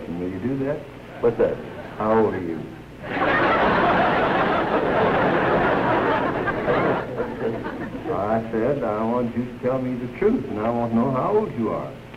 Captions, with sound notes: Will you do that? What's that? How old are you? [laughter] What'd you say? I said, I want you to tell me the truth and I want to know how old you are.